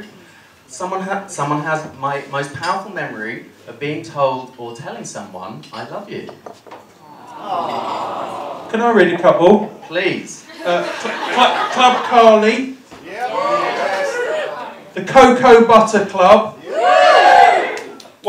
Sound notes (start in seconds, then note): 7.0 audience coos; 13.0 cheering; 16.6 cheering